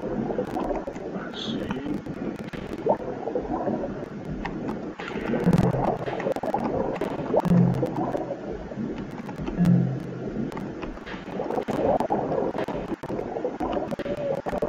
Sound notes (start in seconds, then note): 0.2 sound of submarine